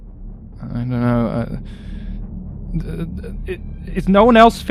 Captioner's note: stammers